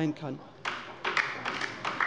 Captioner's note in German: Beifall bei der LINKEN